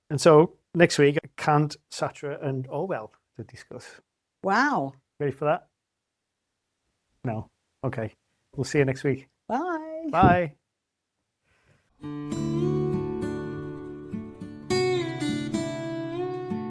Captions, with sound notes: And so next week, Kant, Sartre and Orwell to discuss. Wow. Ready for that? [SILENCE] No. Okay. We'll see you next week. Bye. Bye.